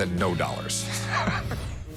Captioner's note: laughs